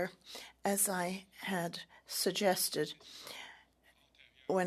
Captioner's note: speaking French